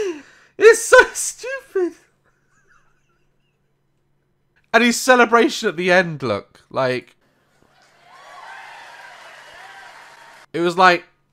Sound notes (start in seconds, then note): 2.3 disappointed laugh